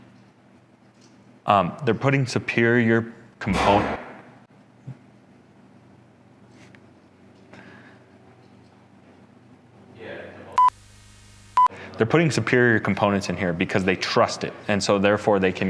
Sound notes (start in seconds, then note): 3.5 metal banging; 10.6 screen beeping